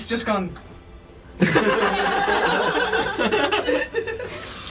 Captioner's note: laughter